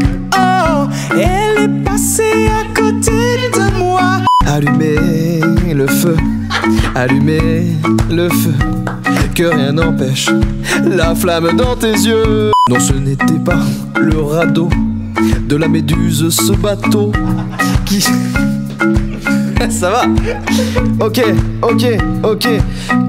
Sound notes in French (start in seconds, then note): 17.2 rires; 20.2 rires